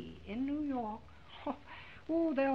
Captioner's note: scoffs